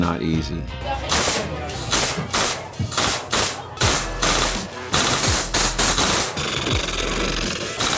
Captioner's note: rifle shooting